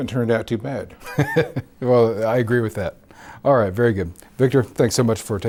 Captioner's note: laughs